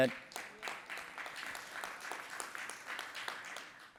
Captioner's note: applause